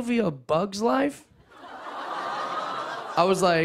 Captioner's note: audience aws